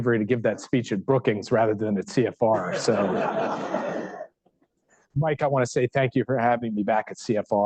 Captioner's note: laughter